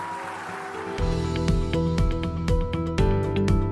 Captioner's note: cheers and applause